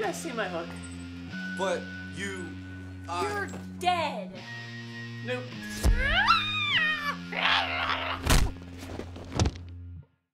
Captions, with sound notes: Have you guys seen my hook? - But you- I- - You're dead. - Nope. (magical buzz pop) (screaming)